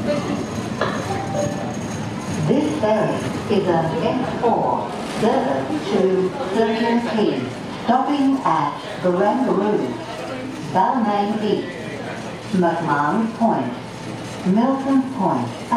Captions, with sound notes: [2-tone chime] This ferry is a F4 service to Circular Quay stopping at Barangaroo, Balmain East, McMahons Point, Milsons Point